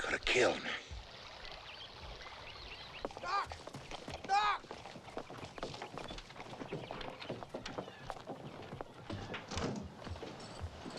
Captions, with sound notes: - He could have killed me. - Doc! Doc! (horses clopping)